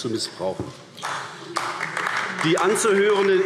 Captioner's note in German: Beifall AfD